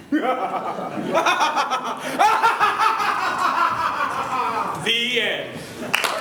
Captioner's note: laughter